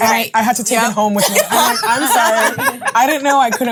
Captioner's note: ladies laughing